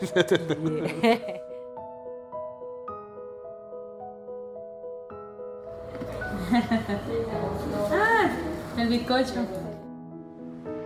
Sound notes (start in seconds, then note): 0.0 laughter; 1.1 classical piano music; 6.3 laughter